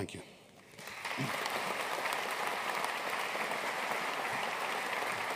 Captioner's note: audience applauding